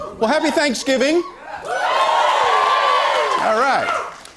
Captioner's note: cheers and applause